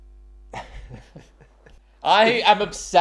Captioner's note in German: lacht